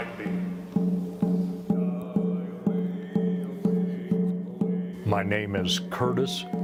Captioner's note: chanting